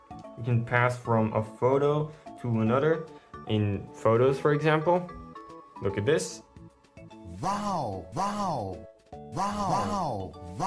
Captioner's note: sound effects playing